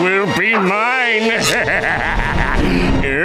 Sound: laughing

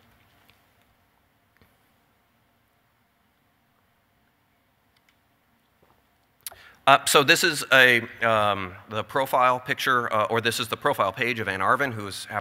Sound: long pause

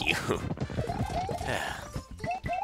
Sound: sigh

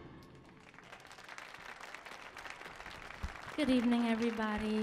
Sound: audience cheering

